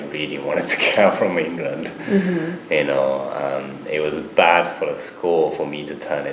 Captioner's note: laughs